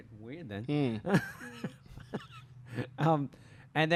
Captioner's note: laughter